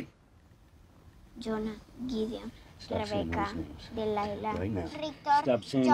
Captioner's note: speaks in foreign language